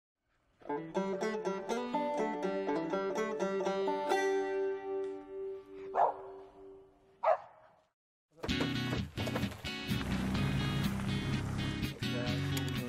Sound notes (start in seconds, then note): 0.5 banjo music; 7.2 dog barking; 8.4 calm rock music